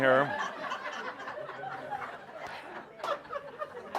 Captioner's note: laughter